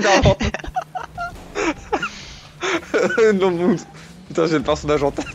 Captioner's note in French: rires